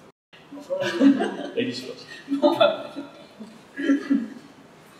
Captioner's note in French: Rires